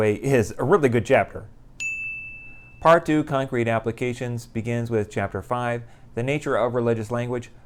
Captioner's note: chime